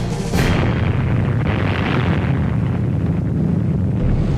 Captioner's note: explosion rumbling